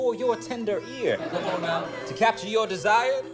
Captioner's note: laughter